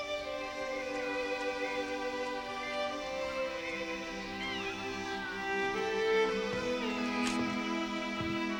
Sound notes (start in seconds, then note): 3.1 cats mewing